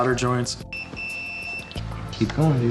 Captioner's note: beeping